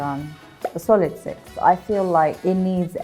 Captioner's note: number pops